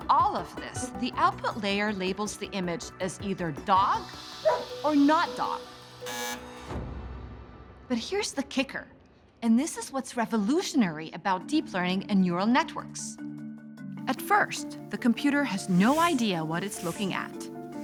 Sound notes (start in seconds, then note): 4.4 dog barks; 6.0 buzzer sounds